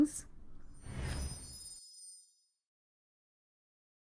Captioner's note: air whooshes